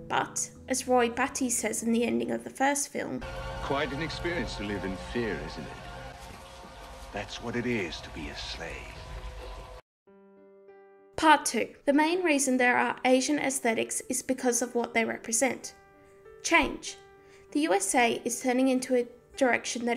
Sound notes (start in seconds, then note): 5.9 rain splashing; 10.0 gentle music